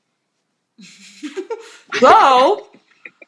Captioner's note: laughs